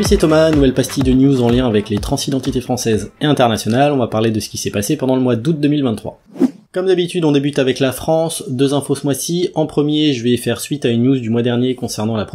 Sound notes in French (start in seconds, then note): 6.2 Son de transition